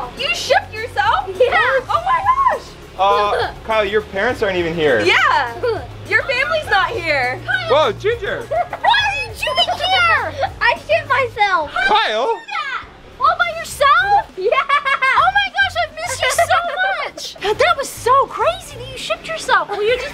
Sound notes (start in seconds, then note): 13.8 laughing